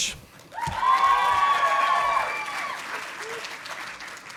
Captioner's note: audience applauding